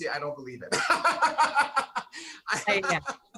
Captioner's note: laughing